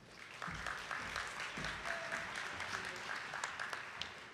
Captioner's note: attendees clapping